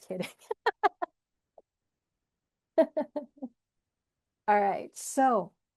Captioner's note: laughs